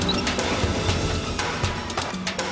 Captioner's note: beeping continues